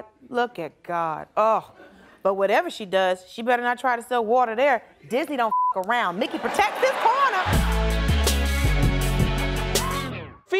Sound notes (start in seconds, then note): 5.5 beep; 7.5 intense electronic music